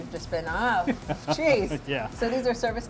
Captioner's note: laughing